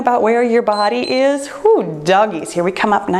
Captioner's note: timer beeps